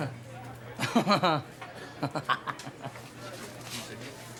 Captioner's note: Rovira chuckles